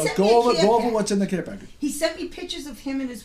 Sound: voiceover

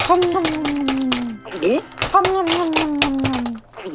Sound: chewing

